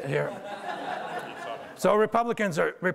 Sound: audience laughter

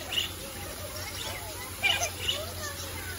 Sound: birds chirping

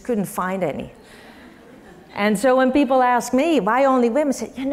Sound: laugh

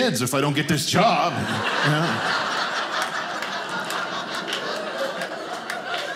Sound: audience laughing

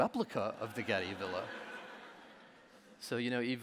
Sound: audience laughing

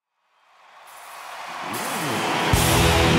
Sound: audience cheers; rock music begins

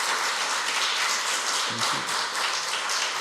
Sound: loud applause

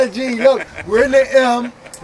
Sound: laughing

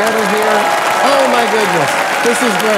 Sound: applauds

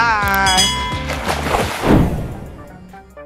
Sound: water splashing; upbeat music

